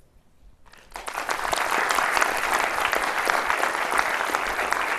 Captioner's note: audience clapping